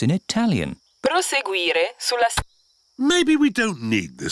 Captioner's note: sat nav talks in italian